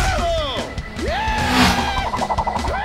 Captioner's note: screams